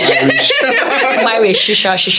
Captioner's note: laughs